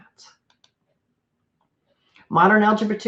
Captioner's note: computer mouse clicks